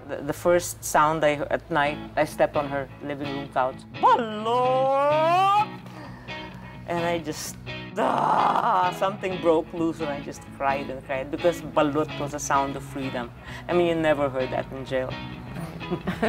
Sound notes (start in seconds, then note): 4.0 common sounds of vendors peddling food on the streets